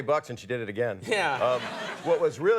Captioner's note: audience laughs